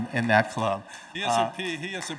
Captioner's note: audience laughing